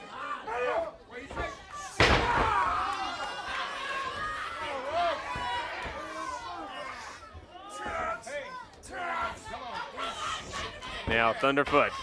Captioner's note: crowd chatter